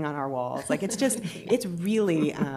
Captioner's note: laughter